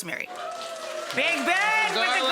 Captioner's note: audience applauding